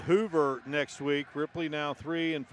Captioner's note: applause